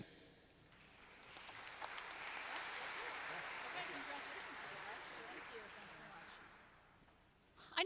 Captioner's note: applause